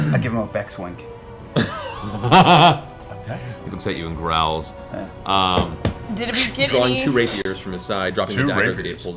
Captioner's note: laughs